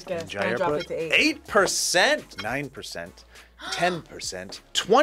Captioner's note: gasps